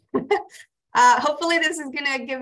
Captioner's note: laughs